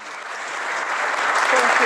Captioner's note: applause